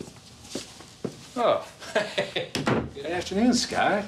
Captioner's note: chuckling